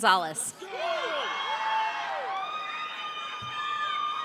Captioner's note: audience cheering